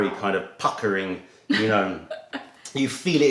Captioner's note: laughter